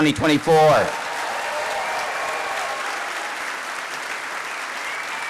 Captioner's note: cheers, applause